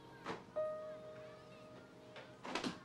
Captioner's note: none